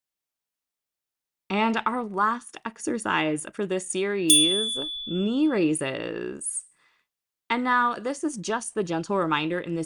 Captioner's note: chime